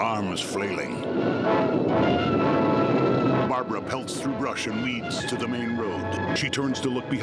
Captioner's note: thunder crashing